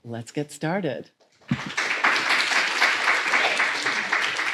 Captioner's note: applause